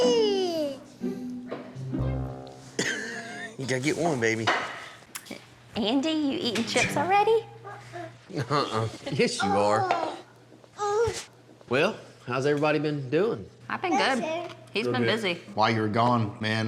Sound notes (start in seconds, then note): 2.8 laughs